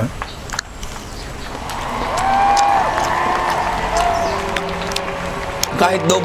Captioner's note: applause